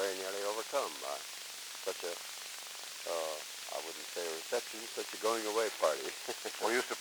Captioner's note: laughter